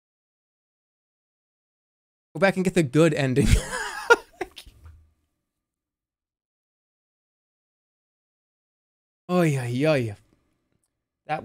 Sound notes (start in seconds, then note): 3.4 laughs